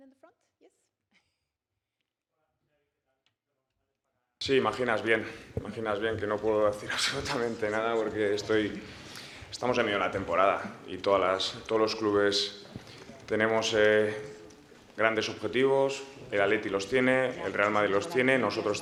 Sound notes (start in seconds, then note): 4.1 Spanish